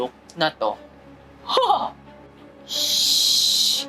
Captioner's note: mimics horse neighing